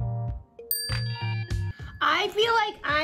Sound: bell chimes

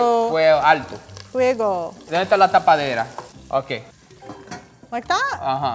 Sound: speaking in foreign language

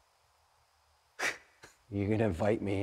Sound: nervous laughter

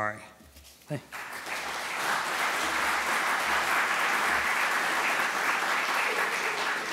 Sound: applause

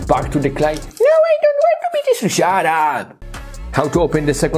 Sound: funny noises

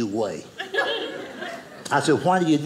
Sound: audience laughing

